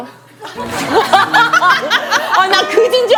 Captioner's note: zip